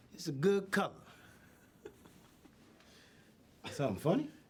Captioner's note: chuckles